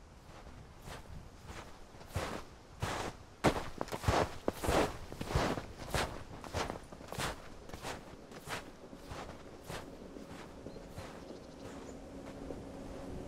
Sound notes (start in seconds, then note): 0.6 feet crunching on snow; 8.7 ski lift whirring